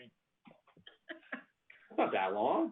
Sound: laughter

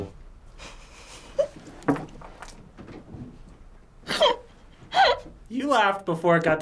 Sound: laughs

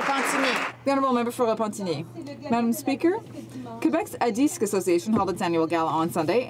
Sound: some Applause

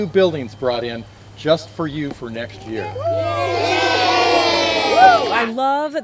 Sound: cheering

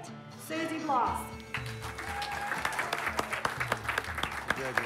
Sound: cheers and applause

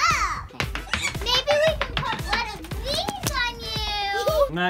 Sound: giggles

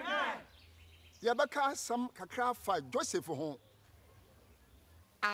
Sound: in Twi

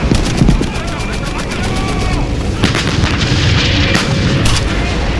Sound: weapons bullets fly

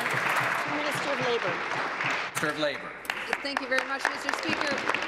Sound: applause

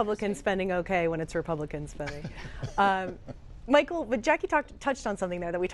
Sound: laughter

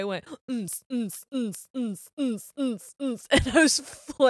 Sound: makes dance music sounds

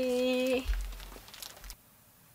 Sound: flap

